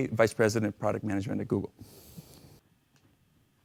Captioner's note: pause